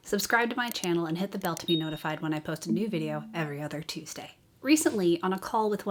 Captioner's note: bell dings